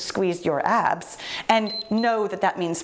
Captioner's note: timer beeps